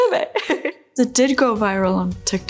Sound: chuckles lightly

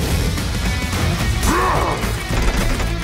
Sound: orc grunts

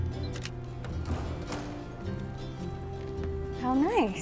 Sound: shutter clicks

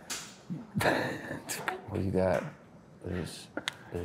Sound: Daniel laughs

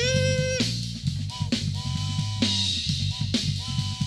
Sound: whistle blows

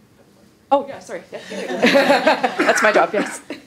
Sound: laughing

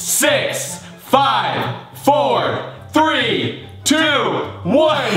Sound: laugh

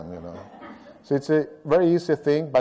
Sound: laughter

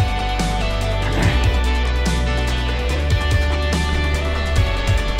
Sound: clears throat

